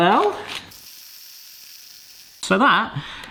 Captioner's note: blender whooshing